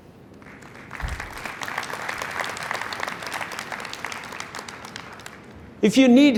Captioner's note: applause